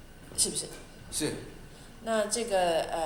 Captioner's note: Mandarin